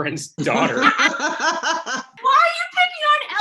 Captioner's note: all laugh